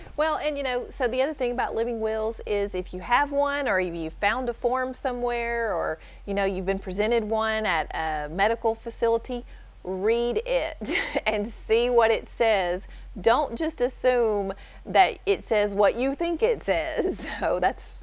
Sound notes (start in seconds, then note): 10.9 chuckle